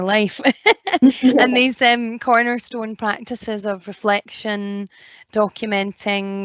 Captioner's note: laughs